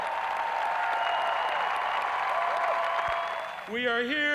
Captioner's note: crowd cheering